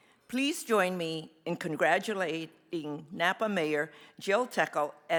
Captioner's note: none